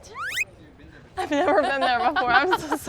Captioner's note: whistle slides